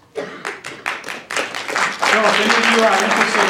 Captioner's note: applause